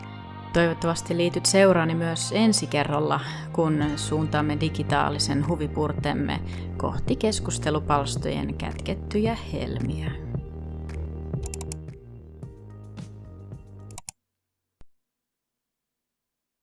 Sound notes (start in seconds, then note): 11.4 𝘥𝘰𝘶𝘣𝘭𝘦-𝘤𝘭𝘪𝘤𝘬; 13.8 𝘤𝘭𝘪𝘤𝘬